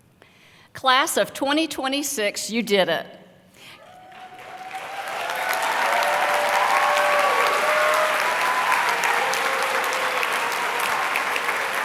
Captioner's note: applause and cheering